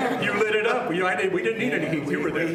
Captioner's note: laughter